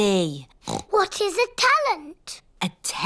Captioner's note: oinks